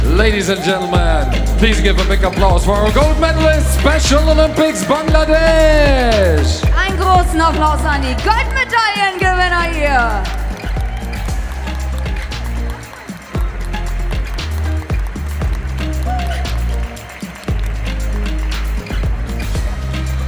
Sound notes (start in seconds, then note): 3.8 raises voice again; 10.8 applause; 10.8 ♫ Midtempo guitar music ♫